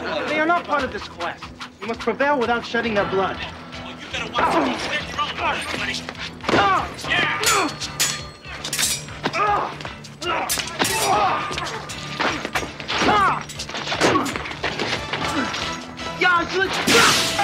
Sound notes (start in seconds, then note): 4.2 fight sounds